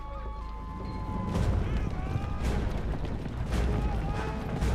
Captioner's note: men yelling